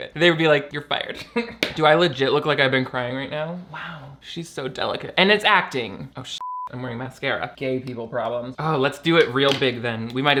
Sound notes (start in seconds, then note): 1.5 laughs; 6.4 beep